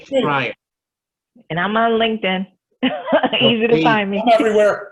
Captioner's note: laughs